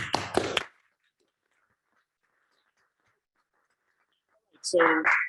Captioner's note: applause